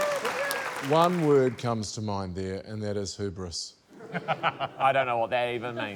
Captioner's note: laughs